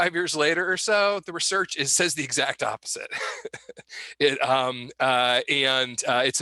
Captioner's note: laughs